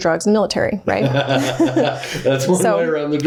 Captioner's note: laughing